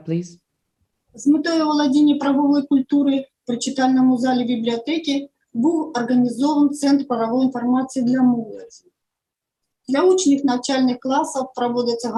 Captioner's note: foreign Language